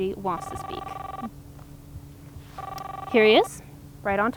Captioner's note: cellphone ringing